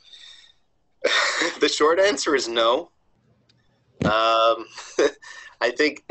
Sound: cough; laugh

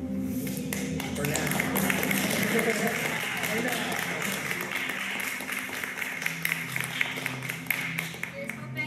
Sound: more applause and cheering

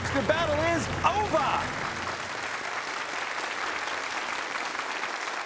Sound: applause

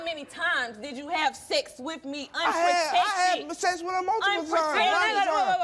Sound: none

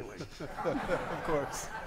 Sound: audience laughing

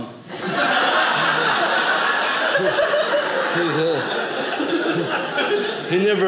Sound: audience laughing

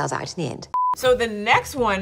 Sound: beep

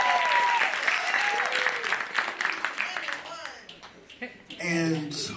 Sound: applause

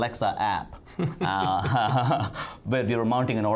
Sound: laughing

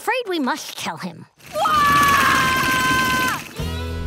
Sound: screaming

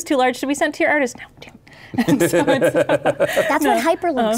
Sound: laughing

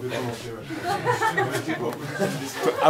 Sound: laughs

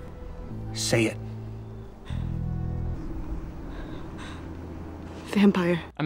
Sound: Bella breathing heavily

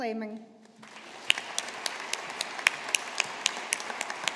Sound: audience applauding

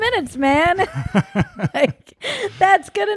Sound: laughing

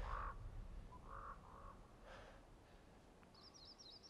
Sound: person breathing; birds chirping

